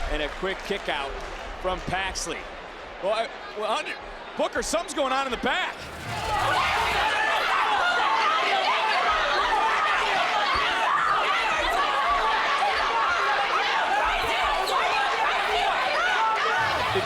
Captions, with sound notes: And a quick kickout from Paxley. Booker, something's going on in the back! (female wrestlers screaming)